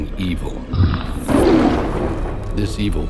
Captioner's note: beast roaring